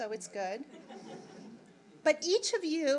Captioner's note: audience laughing